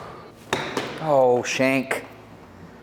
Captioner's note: golf club hits ball